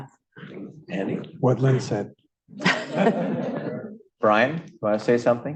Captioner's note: laughter